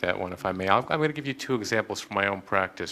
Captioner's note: none